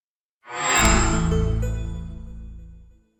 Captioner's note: microsoft chime